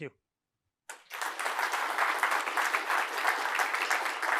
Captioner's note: applause